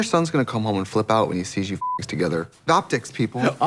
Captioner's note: beep